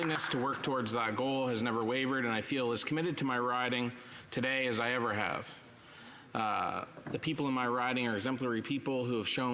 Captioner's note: applause